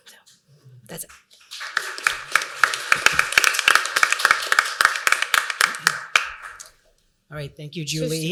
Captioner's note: applause